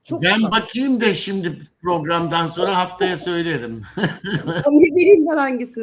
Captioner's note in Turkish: kahkaha